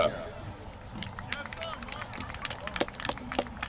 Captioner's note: applause